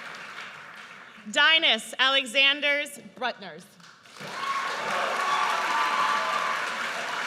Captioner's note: audience cheers